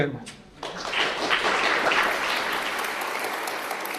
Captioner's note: applause